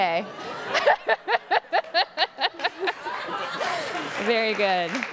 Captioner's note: laughing; audience gasping; audience applauding